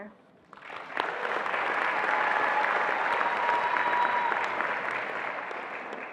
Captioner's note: attendees applauding and cheering